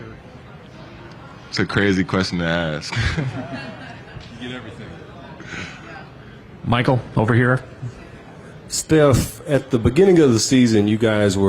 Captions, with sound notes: I listened to Glock before a game, so yeah. It's a crazy question to ask. >> [LAUGH] >> You get everything. >> Michael, over here. >> Steph, at the beginning of the season, you guys